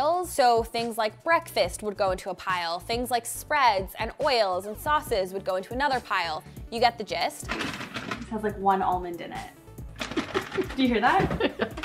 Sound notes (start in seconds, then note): 7.6 bag rustling; 9.5 laughs